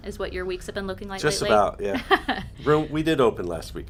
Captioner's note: chuckles